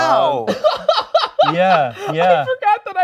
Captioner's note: laughing